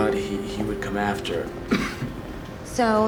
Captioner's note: coughs